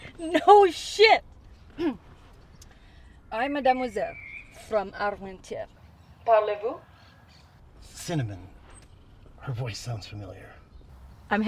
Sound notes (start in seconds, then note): 1.6 clears throat; 3.6 Cinnamon speaking French